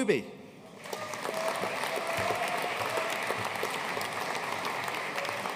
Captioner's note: audience cheering and applauding